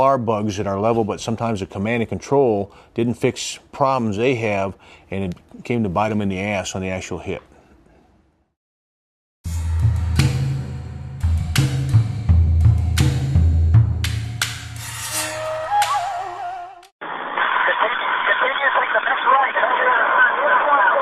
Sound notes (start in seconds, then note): 7.6 upbeat music; 15.6 voice Over The Radio Call